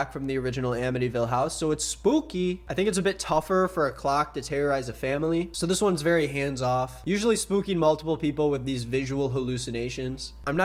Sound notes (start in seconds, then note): none